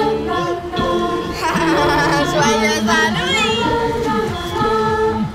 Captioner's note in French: cri de peur